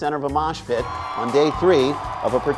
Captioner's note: crowd cheering